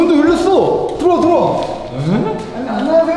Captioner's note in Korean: 놀라는 탄성